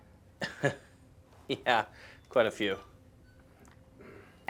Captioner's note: laughs